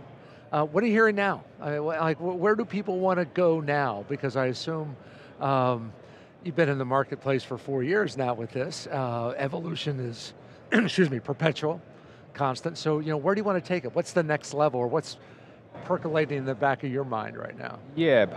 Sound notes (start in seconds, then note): 10.7 clears throat